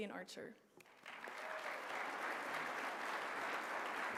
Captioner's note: applause